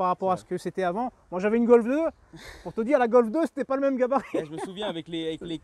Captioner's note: laughs